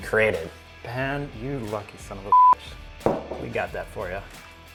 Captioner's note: beep